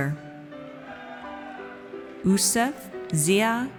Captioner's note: audience cheers